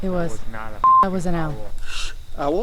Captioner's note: beep